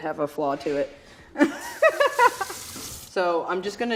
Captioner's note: laughing